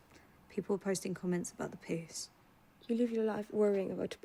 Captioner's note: none